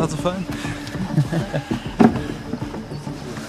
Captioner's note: quiet laughter